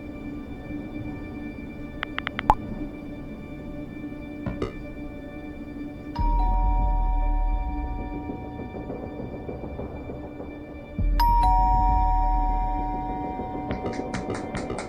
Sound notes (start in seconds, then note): 2.0 typing sound; 4.5 warning beep; 6.2 doorbell rings; 8.3 tense music starts; 11.3 the doorbell rings and the door knocks